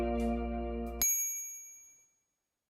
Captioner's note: bell dings